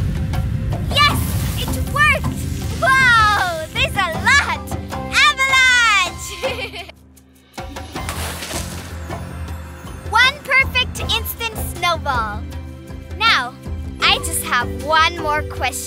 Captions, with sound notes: Yes! It worked! Wow! There's a lot! Avalanche! (giggling) One perfect instant snowball! Now, I just have one more question...